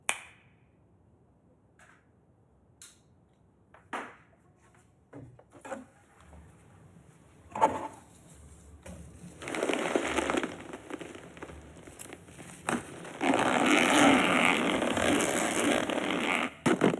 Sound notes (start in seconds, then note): 0.1 fingers snapping; 9.9 latex rubbing; 13.8 zipper unzipping